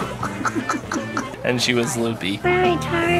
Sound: laughing

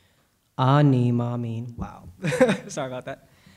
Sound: speaking Hebrew

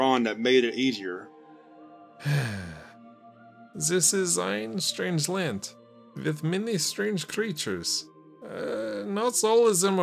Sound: deep sigh

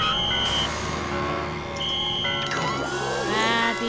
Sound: blows whistle

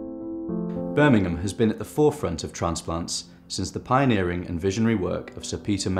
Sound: voiceover

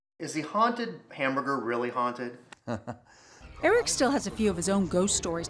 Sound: laughs

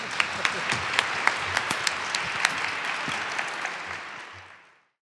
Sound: crowd applauding

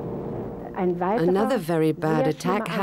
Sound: speaking in foreign language

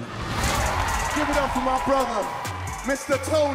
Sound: audience cheers

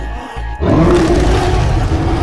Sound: roars

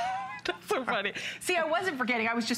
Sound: laughter

